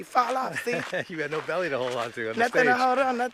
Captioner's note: laughter